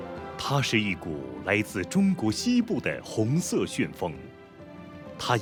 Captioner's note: speaking in foreign language